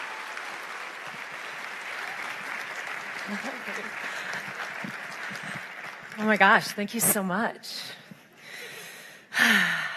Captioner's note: applause